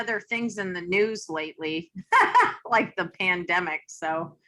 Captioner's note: laughs